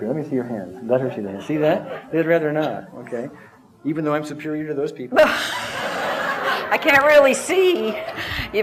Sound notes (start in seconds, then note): 5.2 laughter